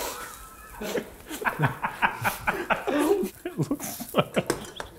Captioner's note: everyone laughing